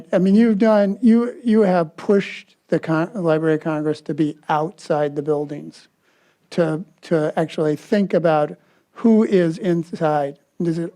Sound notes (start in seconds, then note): none